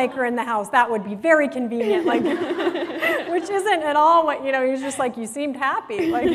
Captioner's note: laughter; laughter